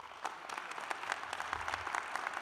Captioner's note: applause